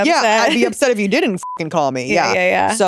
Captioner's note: beep